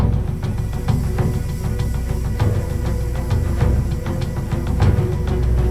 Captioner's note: moaning; dramatic music